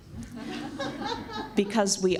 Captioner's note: laughs